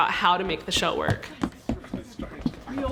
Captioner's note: running footsteps